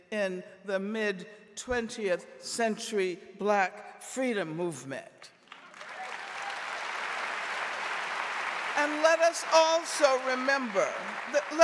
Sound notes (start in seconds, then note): 5.4 audience applauding